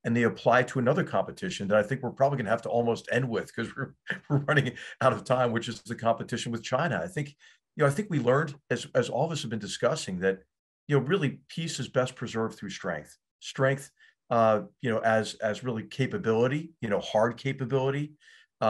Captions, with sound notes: they apply to another competition. That I think we're probably gonna have to almost end with [LAUGH] cuz we're running out of time, which is the competition with China. I think we learned, as all of us have been discussing, that really peace is best preserved through strength. Strength as really hard capability,